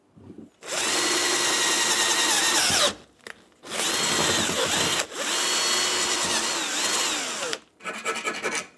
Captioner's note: drilling